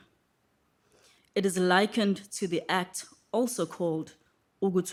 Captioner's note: speaking IsiZulu; speaking IsiZulu